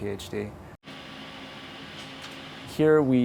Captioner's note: machine buzzing